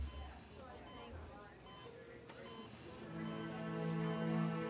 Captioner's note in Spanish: Bip del monitor